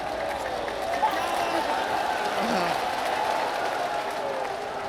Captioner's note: crowds claps and cheers